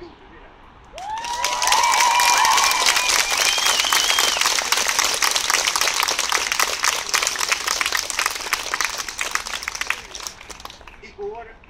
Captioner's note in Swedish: Jubel och applåder